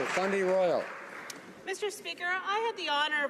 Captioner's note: applause